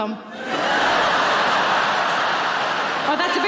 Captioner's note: audience laughing